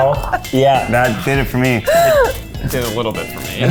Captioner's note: laughing